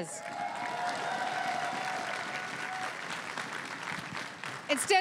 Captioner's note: crowd cheering and applauding